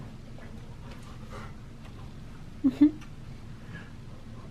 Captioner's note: kisses